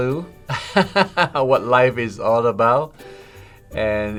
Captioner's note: laughs